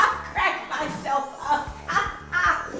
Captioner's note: laughing